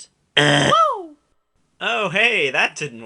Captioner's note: buzzing